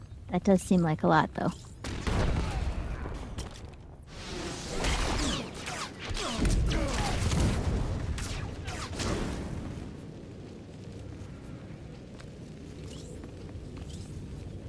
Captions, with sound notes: That does seem like a lot, though. [gunshots]